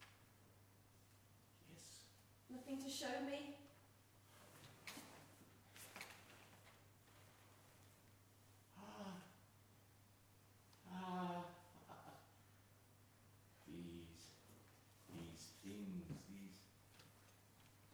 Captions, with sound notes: - Yes. - Nothing to show me? - Ahhh. (laughs) These, these things, these...